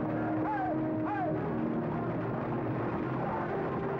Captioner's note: man shouting